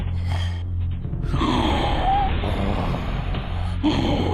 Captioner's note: grunts